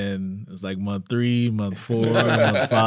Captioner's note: all laughing